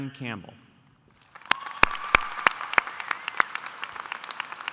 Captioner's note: audience applauding